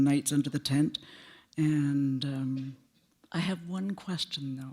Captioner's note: none